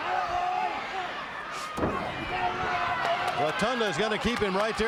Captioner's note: crowd chatter